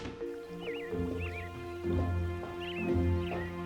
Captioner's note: birds chirping